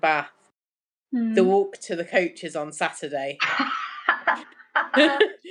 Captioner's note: laughter